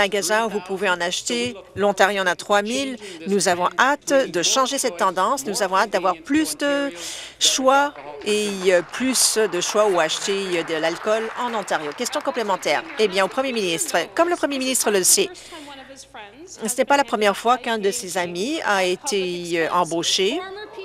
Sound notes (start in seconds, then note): 12.7 applause